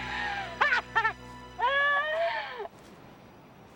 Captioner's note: Taryn laughing